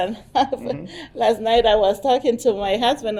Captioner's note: chuckles